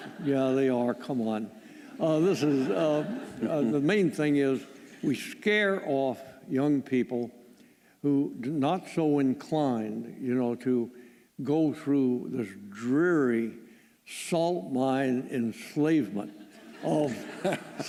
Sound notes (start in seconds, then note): 1.9 laughter